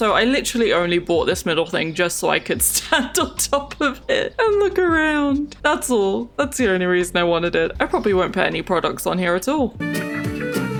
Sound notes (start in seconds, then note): 2.3 laughs